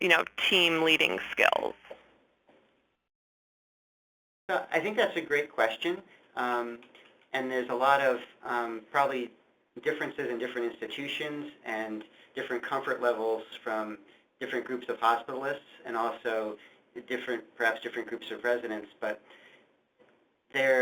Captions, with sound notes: you know, team leading skills? - [Voiceover] I think that's a great question. And there's a lot of probably differences in different institutions and different comfort levels from different groups of hospitalists and also different, perhaps different groups of residents but there,